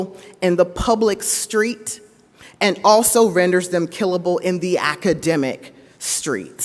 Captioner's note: none